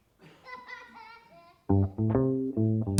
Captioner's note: child laughing; steady music